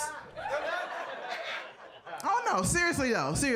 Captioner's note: audience laughing